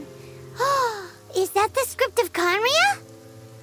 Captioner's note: gasp